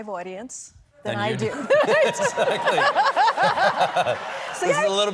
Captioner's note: laughter